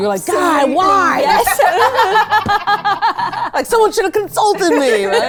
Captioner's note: group laugh